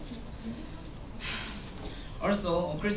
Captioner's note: sigh